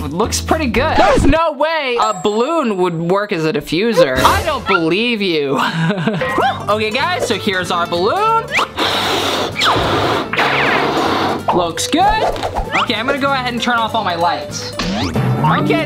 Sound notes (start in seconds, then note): 5.5 chuckles; 8.5 inflating ballon